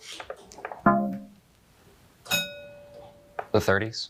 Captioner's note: bell dinging